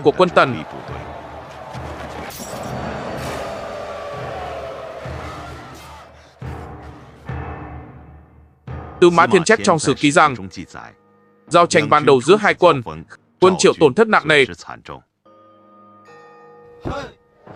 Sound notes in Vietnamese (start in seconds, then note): 5.0 la hét